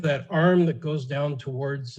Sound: laughing

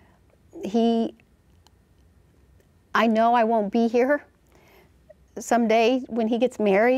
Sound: pause

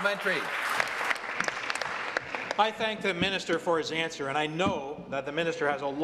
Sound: applause

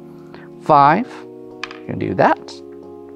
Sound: wooden tabs clattering

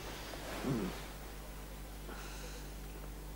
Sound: grunts

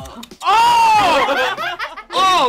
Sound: laughter

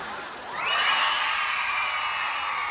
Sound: cheering

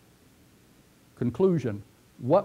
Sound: pause

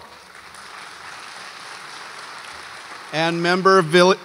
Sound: audience applauds

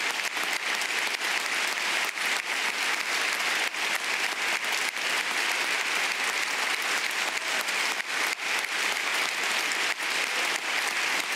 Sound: applause

